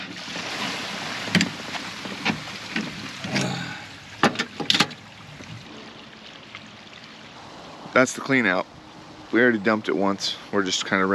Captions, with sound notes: (rushing water) that's the clean out, we already dumped it once